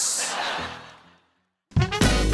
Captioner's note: laughter